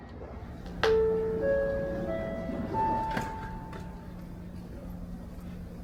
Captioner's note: sound of the onboard announcement chime